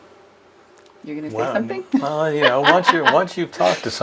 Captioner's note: laughs